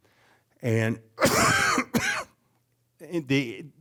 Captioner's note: coughing